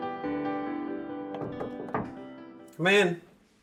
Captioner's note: Wanda knocking